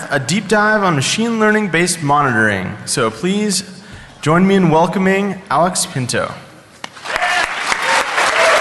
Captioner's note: applause